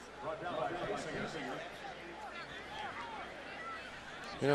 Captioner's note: pa announcement